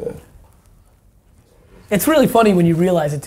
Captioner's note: none